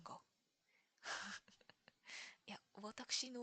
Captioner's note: laughs